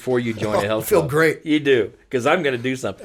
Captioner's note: laughing